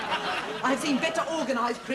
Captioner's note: laughter